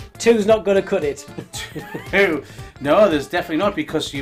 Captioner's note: laughing